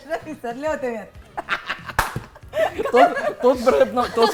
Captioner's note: chuckles; laughs; claps